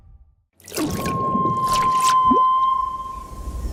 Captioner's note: whale sings